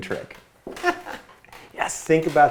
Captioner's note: laughs